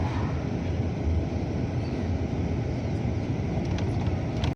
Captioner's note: sound of bus in rustic zone